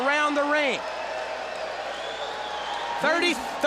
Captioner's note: crowd cheering